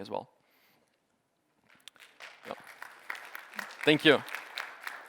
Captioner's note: applause